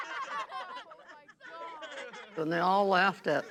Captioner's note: laughing